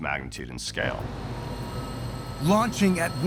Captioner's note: machine whirring